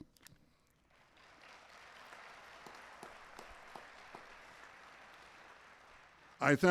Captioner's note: applause